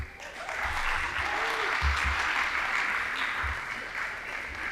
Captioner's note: audience applauding